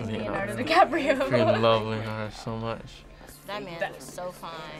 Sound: laughs

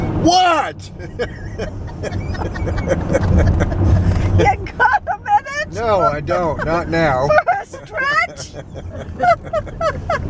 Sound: laughs; yells; laughter

